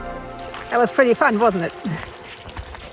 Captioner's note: laughs